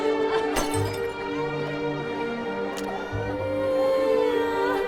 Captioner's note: crying, breaking glasses